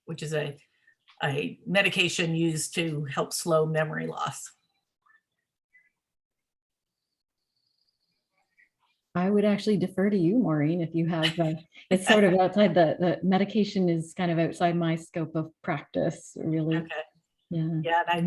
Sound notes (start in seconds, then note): 12.0 laughs